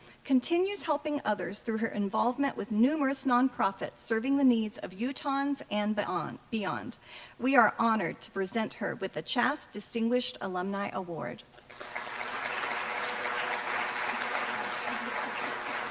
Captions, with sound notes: continues helping others through her involvement with numerous nonprofits, serving the needs of Utahns and beyond. We are honored to present her with the CHaSS Distinguished Alumni Award. [APPLAUSE]